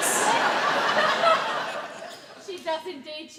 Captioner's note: audience laugh